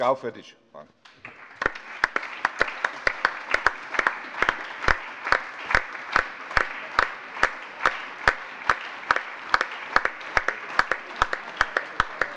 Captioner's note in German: Allgemeiner Beifall - überreicht ein Präsent